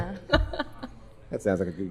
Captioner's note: laughing